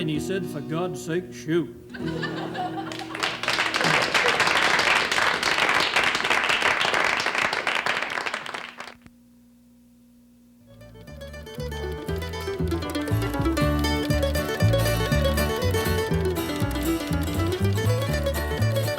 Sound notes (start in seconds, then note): 2.8 audience applauds; 10.7 folk music